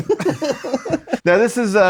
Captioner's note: laughs